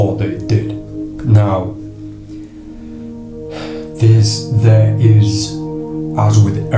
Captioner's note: sighs